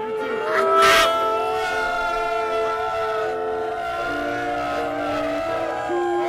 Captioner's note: cheering